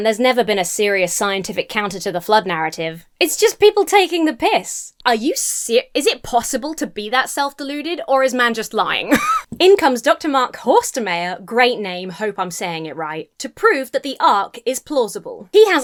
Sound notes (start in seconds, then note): 9.1 wheezes